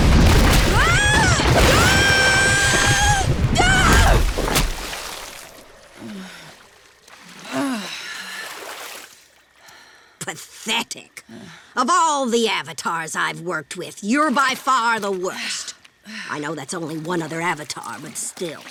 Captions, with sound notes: [screaming] [groaning] Pathetic. Of all the Avatars I've worked with, you're by far the worst. I know that's only one other Avatar, but still.